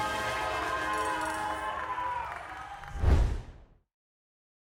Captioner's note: applause